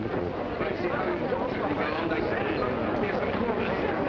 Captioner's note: people murmuring